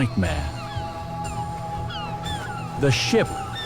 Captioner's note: cries of seagulls